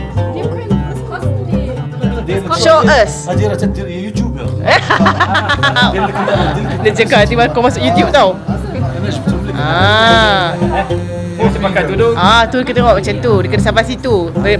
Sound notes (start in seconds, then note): 4.4 speaking German; 6.2 laugh